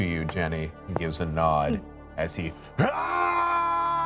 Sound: screaming

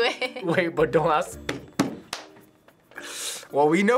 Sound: laughs; slaps table

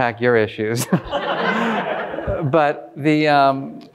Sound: all laughing

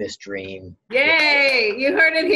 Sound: clapping

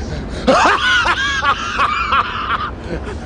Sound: still dying of laughter

